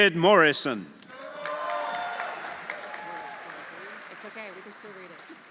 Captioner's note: audience cheering; audience applauding